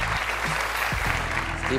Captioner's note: cheers and applause